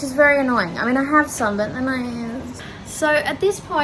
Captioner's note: makes whiny noise